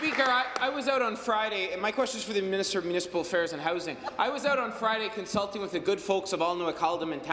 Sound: applause

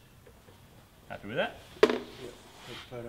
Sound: rattling

